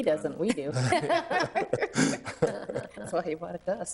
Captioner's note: all laughing